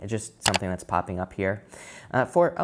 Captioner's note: computer clicking